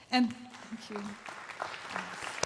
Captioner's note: crowd applauding